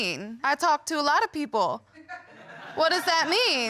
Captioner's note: audience laughing